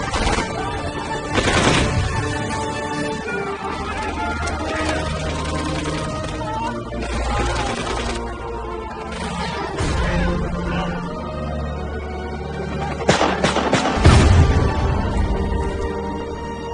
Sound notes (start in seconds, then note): 1.2 gunfire; 3.4 gunfire; 7.6 explosion booming; 7.6 gunfire, actors yelling; 14.0 huge explosion